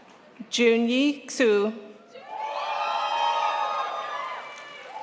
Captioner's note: crowd applauds